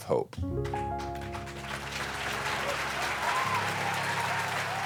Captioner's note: audience clapping